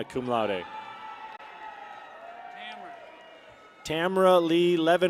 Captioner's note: people cheer